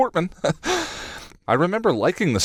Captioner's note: chuckles